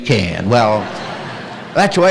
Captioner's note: laughter